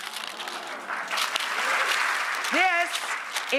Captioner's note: audience cheers